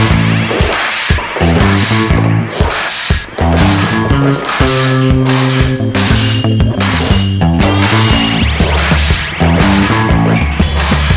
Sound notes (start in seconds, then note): 0.1 relaxed electric guitar music; 3.2 pucks shooting